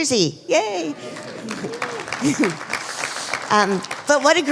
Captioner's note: applause